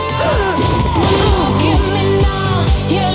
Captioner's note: gasps